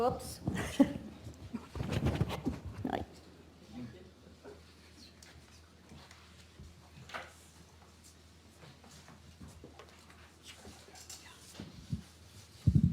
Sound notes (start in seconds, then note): 1.0 laughs; 5.7 audience members whispering